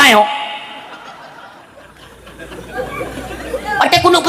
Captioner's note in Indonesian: tertawa